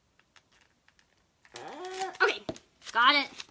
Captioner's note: grunts